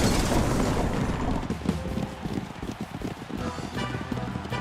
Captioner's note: distant applause